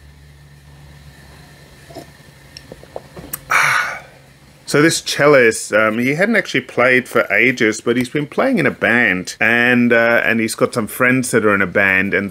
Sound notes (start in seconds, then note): 3.4 sighs